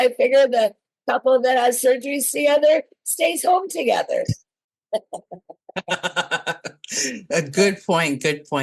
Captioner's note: laugh